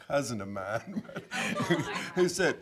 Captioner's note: audience chuckling